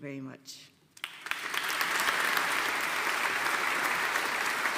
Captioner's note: audience applauding